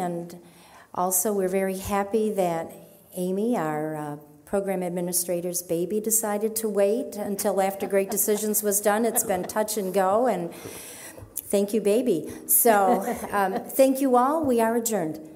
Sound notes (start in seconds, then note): 7.4 audience laughing